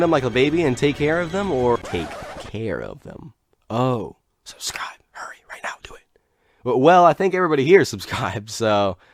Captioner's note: whisper